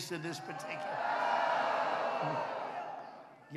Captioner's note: applause